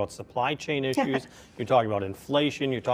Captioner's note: laughs